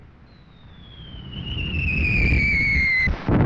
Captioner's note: bombs whistling